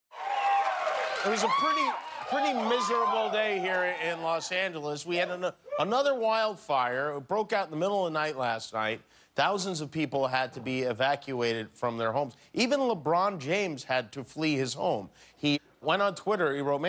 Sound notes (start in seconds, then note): 3.1 cheers and applause